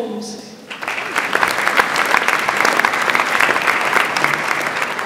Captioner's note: audience applauds